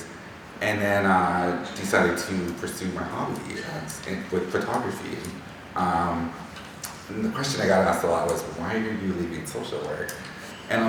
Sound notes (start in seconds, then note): none